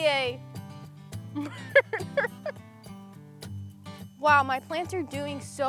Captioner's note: they laugh